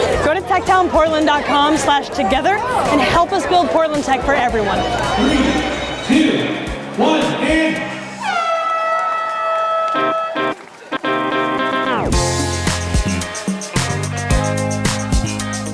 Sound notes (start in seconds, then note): 7.9 horn honking; 10.1 energetic rock music